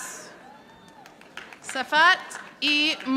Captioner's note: audience applauding